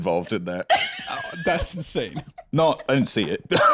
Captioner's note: laughs